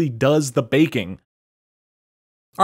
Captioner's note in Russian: неловкая пауза